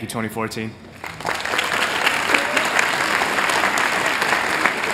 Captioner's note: applause